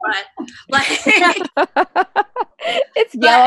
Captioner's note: laughter